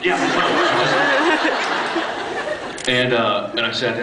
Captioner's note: laughs